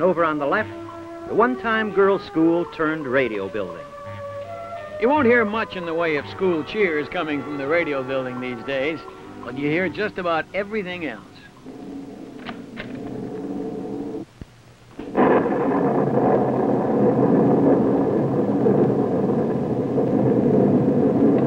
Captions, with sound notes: And over on the left, the one time girl's school turned radio building.You wy of school cheerscoming fg these days. But you'll hear just about everything else. [wind howls] [door clicks] [thunder rolls]